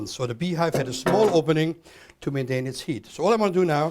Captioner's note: pan clanks